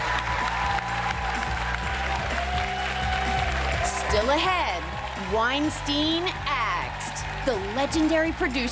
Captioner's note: applause